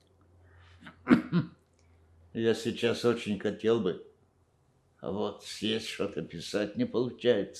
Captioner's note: coughing